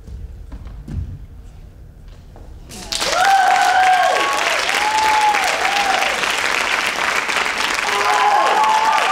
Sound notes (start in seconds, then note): 2.8 audience applauding and cheering